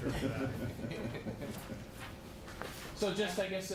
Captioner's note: laughter